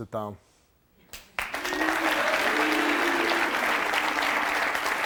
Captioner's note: audience clapping